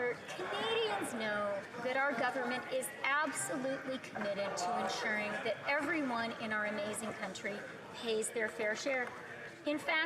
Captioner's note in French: voix de l'interprète